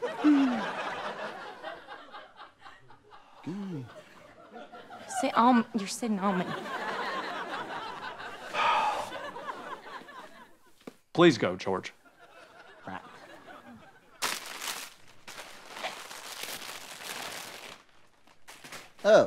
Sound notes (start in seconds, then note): 0.0 audience laughter; 8.5 sigh; 14.2 crinkling